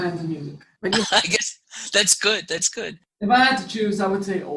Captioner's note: laugh